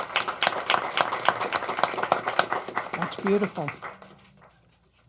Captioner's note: applause